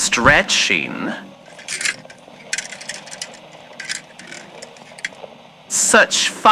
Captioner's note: going through hangers fx